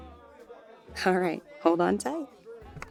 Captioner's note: light teasing tone